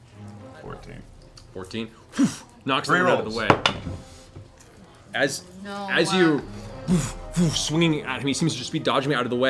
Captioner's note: sighs; whoosh; whoosh, whoosh